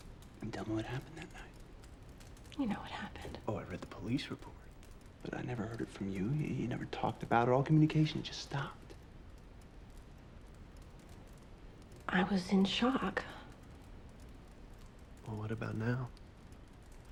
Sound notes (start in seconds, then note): none